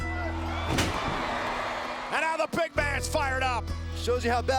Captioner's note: applause